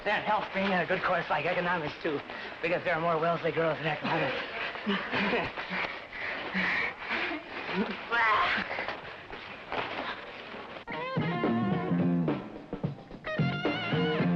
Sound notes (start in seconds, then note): 8.0 laughing; 10.9 upbeat rock music